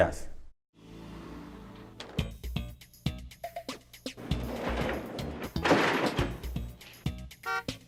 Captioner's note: music, car honking and delivery background noises